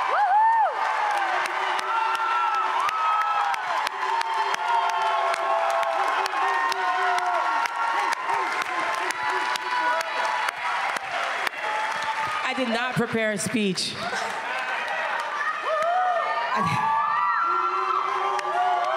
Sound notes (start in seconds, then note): 3.0 cheers and Applause; 8.8 applause